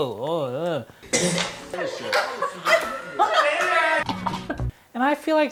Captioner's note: coughing; laughing